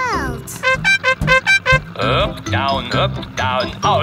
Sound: horn beeping

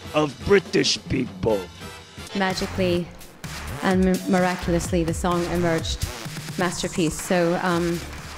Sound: in British accent

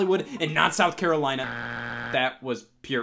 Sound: buzzer beeps

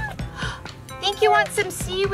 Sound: Adley squeaking; mom gasping

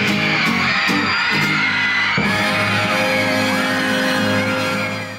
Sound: audience screaming

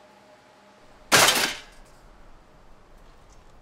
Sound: loud metal clanging

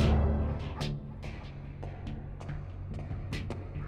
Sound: footsteps

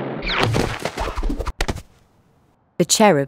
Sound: thudding

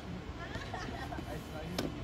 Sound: fake nasal laughter

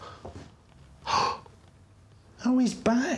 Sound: gasps

